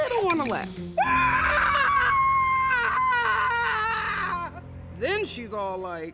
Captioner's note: screams loudly